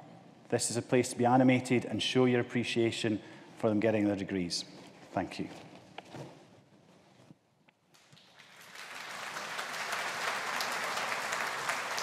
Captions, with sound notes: This is a place to be animated and show your appreciation for them getting their degrees. Thank you. (AUDIENCE APPLAUDING)